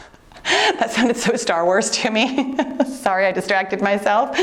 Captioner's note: laughs